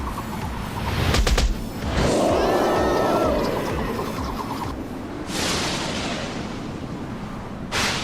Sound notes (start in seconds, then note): 1.8 roar; 1.9 screaming